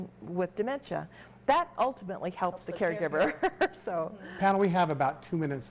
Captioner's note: laughs